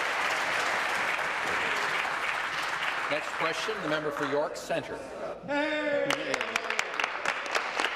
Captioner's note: applause